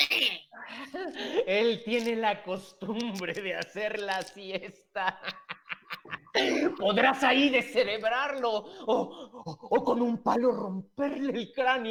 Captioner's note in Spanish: Risas